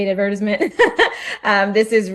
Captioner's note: laughs